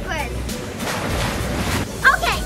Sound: water splashes

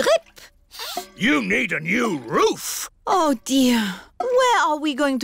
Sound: sniffs

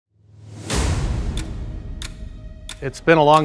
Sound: clock ticking

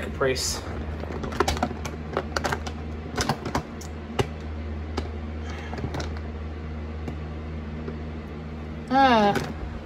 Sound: closed bag rustling

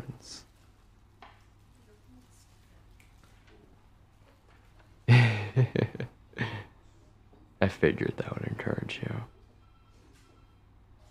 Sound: laughs

